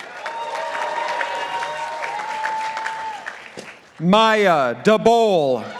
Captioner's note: participants applauding